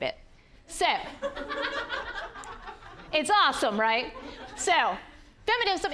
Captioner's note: audience laughing